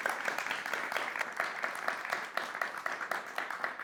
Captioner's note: audience applauding